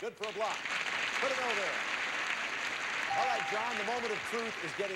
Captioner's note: audience applauding